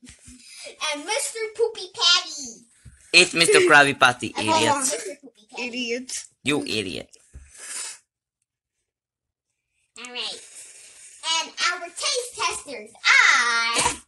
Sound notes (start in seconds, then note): 3.1 Teddy Lauging